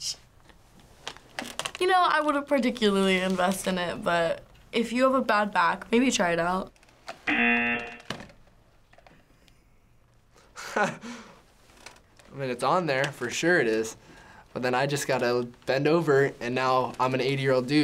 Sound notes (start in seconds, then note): 7.2 buzzer; 10.5 laughing